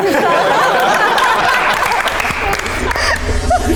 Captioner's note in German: lachen